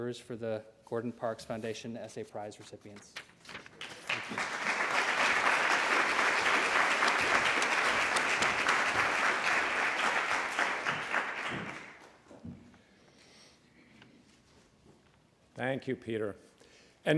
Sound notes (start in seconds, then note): 4.6 applause